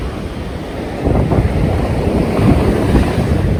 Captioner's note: sound of waves